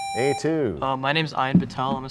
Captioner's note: sound of a buzzer